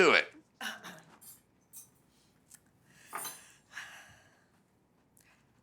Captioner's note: Maybeleen clearing throat